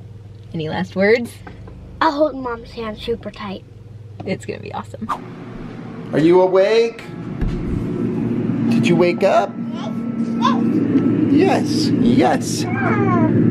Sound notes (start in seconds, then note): 10.0 baby squeaking